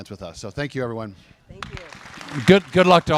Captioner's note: applause